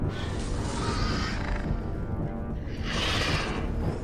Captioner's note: dramatic music; dinosaur growling; dramatic music